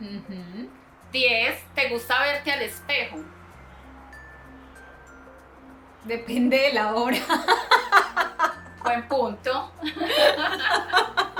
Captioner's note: laughs